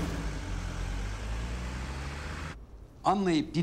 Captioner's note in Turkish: Araba sesi